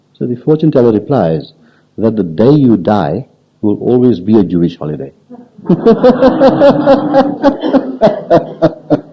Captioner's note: laughs